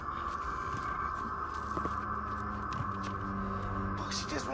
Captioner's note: footsteps clicks